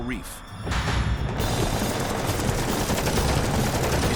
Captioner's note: shooting